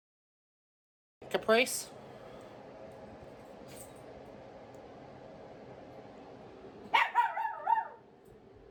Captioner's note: Ella barking